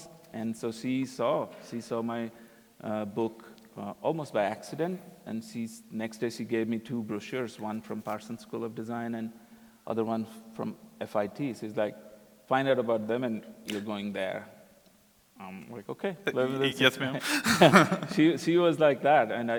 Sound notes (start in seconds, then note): 16.3 both laugh